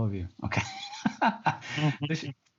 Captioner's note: laughs